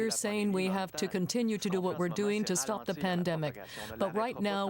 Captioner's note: speaking french